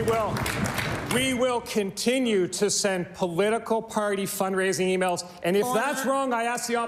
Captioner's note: cheering/Applause